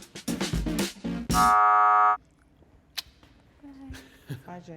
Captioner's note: buzzer sounding